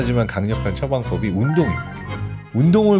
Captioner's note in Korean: 반짝이는 효과음